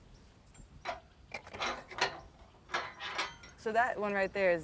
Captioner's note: gate clattering